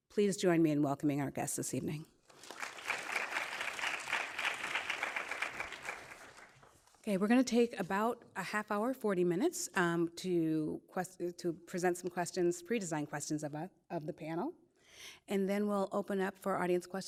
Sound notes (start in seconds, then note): 2.3 audience applauding